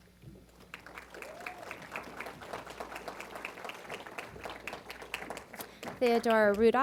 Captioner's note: applause